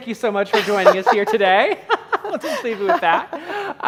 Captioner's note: laughing